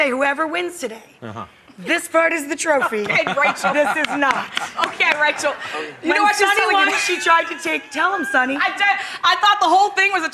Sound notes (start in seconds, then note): 2.6 laughs; 8.5 laughs